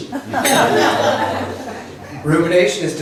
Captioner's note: laughs